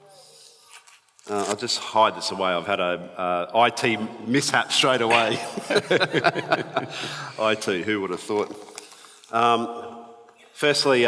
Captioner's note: both laughs